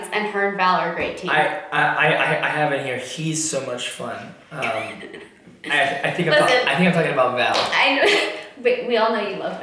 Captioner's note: laughs